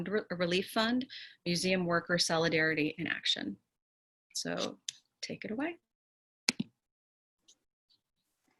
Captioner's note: keyboard clicks